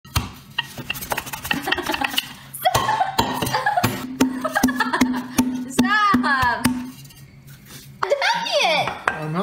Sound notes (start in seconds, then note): 1.4 laughing